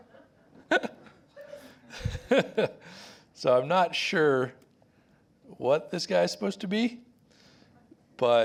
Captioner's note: laughs